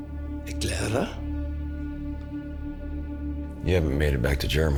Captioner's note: Siegmund speaking German